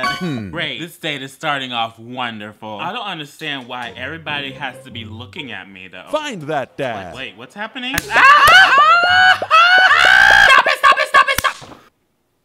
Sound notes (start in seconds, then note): 8.8 unholy screeches of the damned